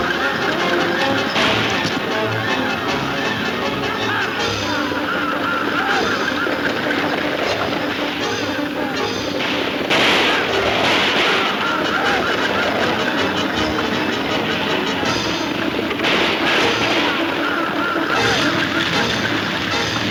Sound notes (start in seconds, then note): 0.0 gun firing; 8.4 guns firing; 15.0 guns firing; 17.4 exciting music